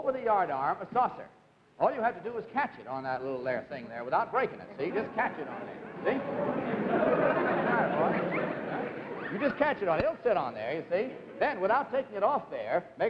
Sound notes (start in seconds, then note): 4.8 audience laughing excitedly